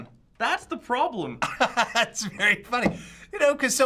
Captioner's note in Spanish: risas